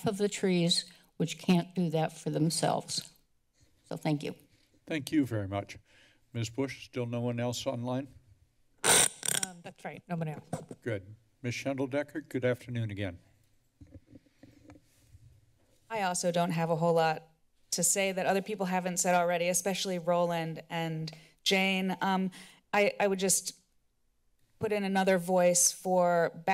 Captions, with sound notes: the trees, which can't do that for themselves, so thank you. - Thank you very much. Ms. Bush, still no one else online? [screeching sound] - Um, that's right. No one else. - Good. Ms. Shendel Decker. Good afternoon again. - I also don't have a whole lot to say that other people haven't said already, especially Roland and Jane. Um, I-I would just put in another voice for